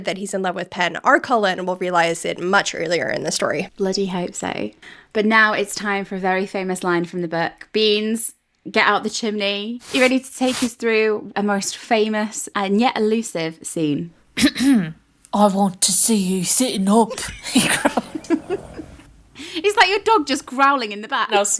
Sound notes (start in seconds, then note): 14.4 clears throat; 17.2 laughing